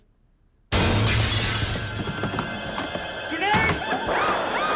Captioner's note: glass shattering